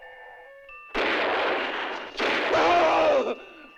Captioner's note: gunshots